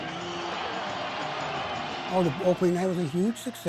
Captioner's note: crowd cheering